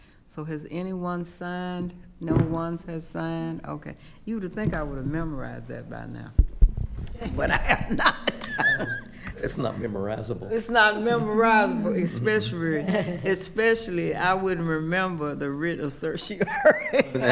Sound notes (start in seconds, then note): 7.1 laughing; 16.4 laughing